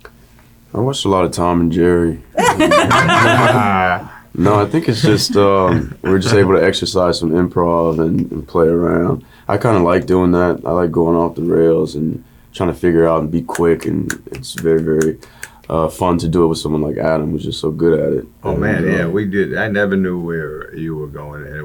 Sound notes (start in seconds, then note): 2.3 laughing